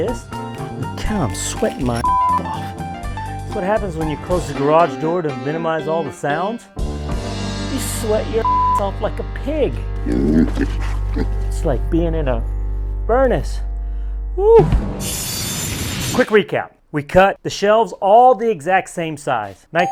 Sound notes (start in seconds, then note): 2.0 beep; 8.4 beep; 10.0 pig grunting; 15.0 saw blade running